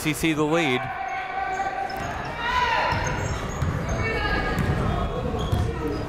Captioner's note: people shouting in the crowd